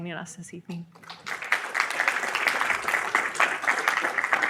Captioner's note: audience applauding